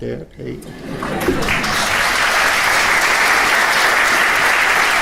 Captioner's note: audience applauding loudly